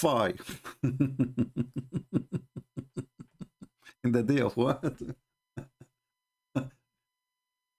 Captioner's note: Ketawa